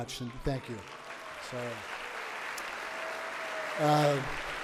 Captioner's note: audience applauds